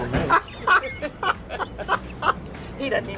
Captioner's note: laughs